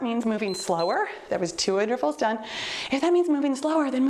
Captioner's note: timer beeps